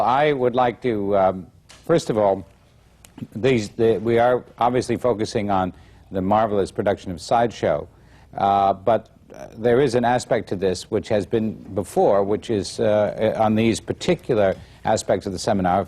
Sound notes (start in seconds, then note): none